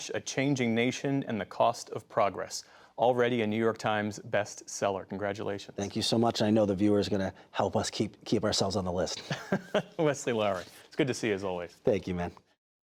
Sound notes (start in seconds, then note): 9.1 laughter